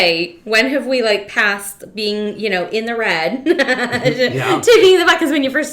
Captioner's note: laughs